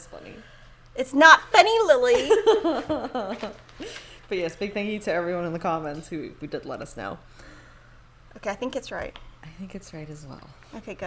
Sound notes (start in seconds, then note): 2.2 laughs